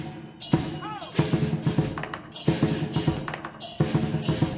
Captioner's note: man exclaiming